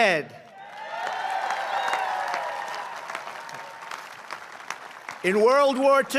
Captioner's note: applause